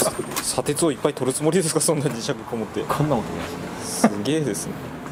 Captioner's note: laughs